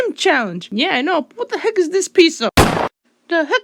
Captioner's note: bang